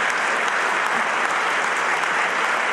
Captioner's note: applause